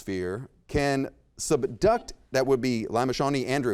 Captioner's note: buzzer beeps